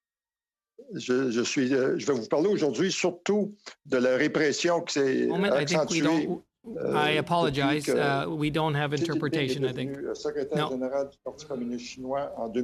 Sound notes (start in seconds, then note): 10.5 speaking French